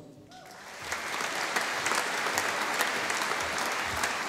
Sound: audience applauding

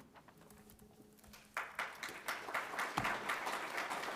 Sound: applause

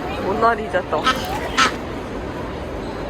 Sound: duck sound

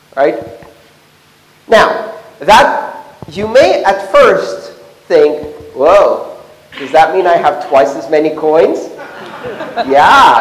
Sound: laughter

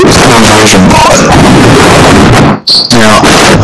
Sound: Atari 2600 Explosion

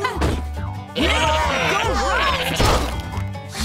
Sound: laughing; cheering

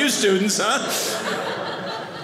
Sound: audience laughing

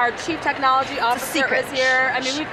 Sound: laughing

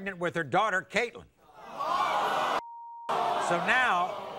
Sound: audience groans

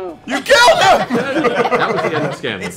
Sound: laughter

